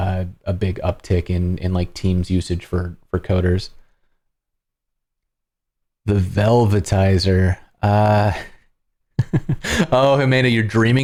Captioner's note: laughter